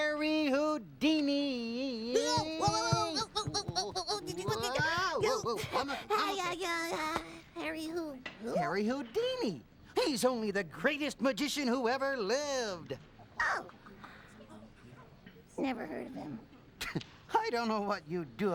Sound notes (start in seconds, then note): 16.0 chuckles